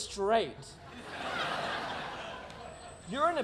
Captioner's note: audience laughing